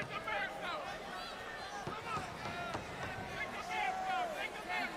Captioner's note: crowd chatter